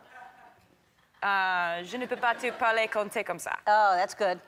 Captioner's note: says something in French again; crowd members laughing